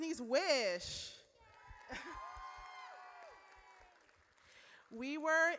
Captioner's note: audience cheers